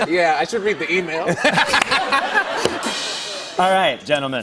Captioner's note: laughter